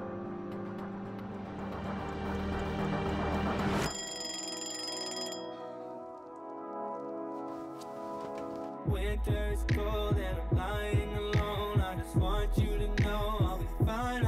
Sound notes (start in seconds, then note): 3.9 ringing